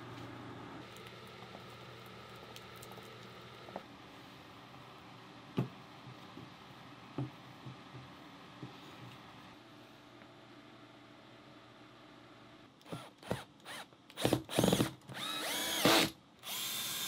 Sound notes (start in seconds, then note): 13.5 drilling